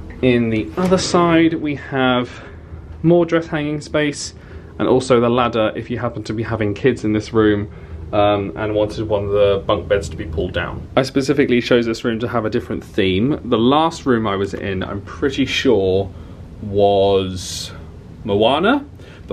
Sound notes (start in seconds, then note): none